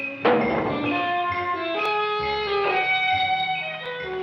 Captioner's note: Seymour thumping